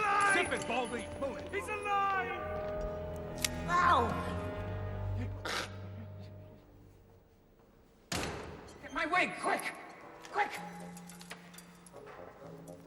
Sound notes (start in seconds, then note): 4.5 snarls; 8.1 door opens